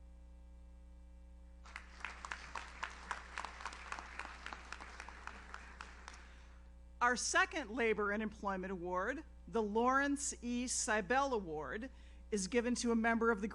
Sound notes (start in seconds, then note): 1.6 audience applauds